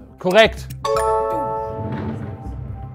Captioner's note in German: Klingeln